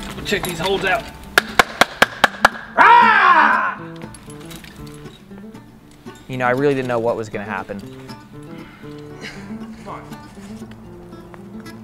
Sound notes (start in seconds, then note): 1.8 clapping; 2.7 screams